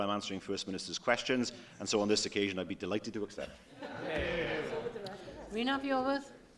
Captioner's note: laughter